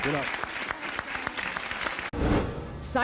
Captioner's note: audience applauding